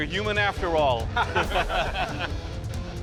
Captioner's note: laughter